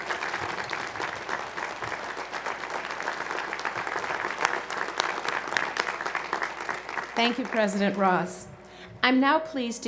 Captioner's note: applause